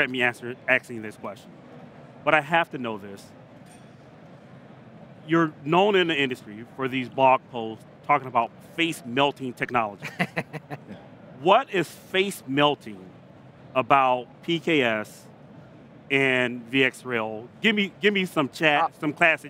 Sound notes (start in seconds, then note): 10.0 laughing